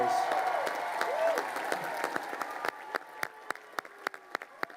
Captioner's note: crowd cheering and applauding